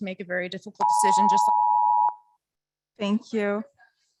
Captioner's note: beeping sound